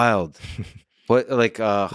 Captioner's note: laughs